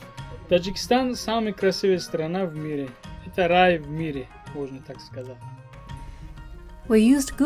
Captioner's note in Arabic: تتحدث الروسية